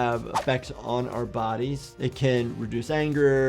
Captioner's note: video whooshes